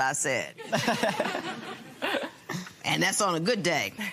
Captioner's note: laughter